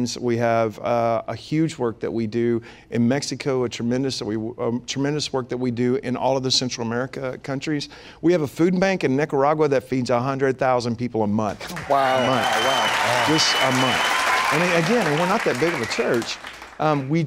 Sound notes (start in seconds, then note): 11.6 applause / Cheers